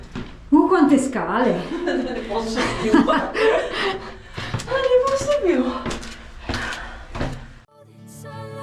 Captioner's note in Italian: risate